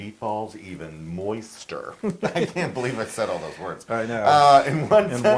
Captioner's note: laugh